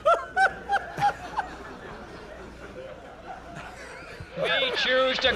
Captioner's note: intense laughter